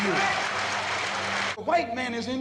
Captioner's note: applause